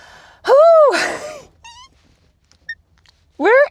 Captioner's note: squeals